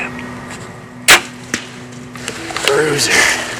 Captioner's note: sound of bowshot